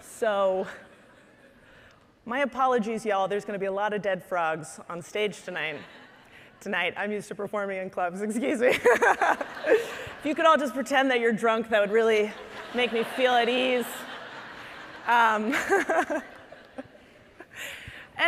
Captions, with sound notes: So my apologies, y'all, there's gonna be a lot of dead frogs on stage tonight. Tonight, I'm used to performing in clubs. Excuse me. (laughing) If you could all just pretend that you're drunk, that would really make me feel at ease. (audience laughing)